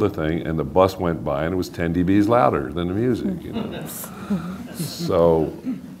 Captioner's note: laughing